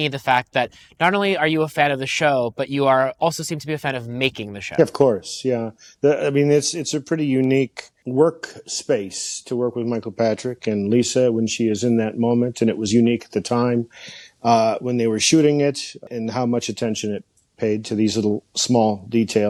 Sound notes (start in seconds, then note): none